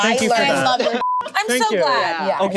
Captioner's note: group talking together; beep